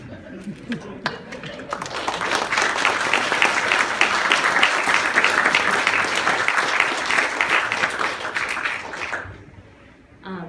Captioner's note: applause